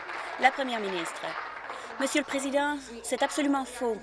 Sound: applause

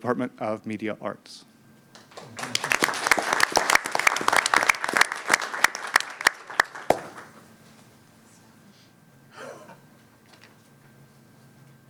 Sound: applause

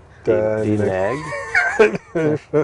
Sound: laughing

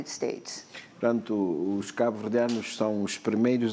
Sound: speaking portuguese

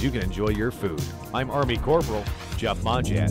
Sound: clock ticking

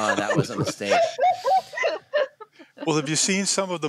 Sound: laughter

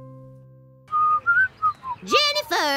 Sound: whistling

